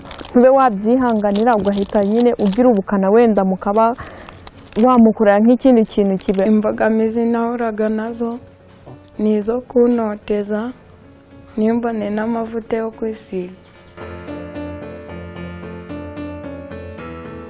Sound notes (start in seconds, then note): 6.5 speaking in Kinyarwanda; 14.8 soft music